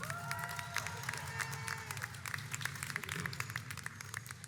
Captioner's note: audience applauds